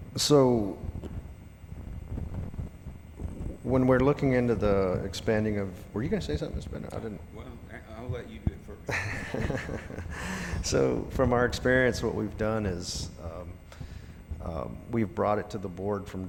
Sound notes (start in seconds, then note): 8.8 laughs